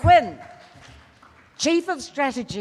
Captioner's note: loud applause